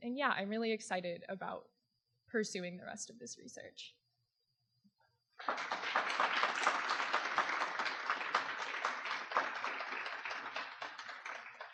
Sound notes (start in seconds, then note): 5.4 audience applause